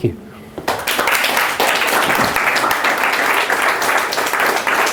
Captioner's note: applause